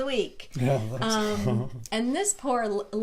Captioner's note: laughs